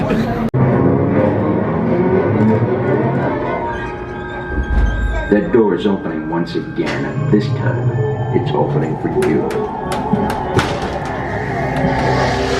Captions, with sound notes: (Creepy music plays) (Voiceover) The door's opening once again and this time it's opening for you